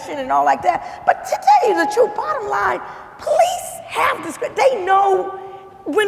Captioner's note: stammering